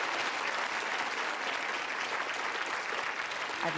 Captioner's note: applause